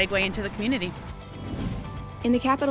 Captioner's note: swoosh sound effect